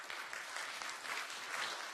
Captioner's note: applause